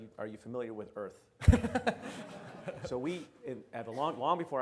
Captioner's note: audience laughs